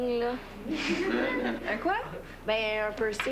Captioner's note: Rires